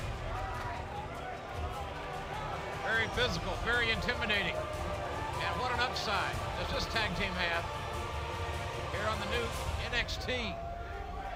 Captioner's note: crowd chatter